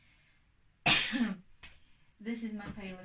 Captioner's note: coughs